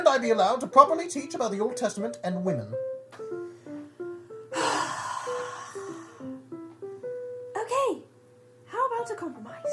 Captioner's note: comically long and hard sigh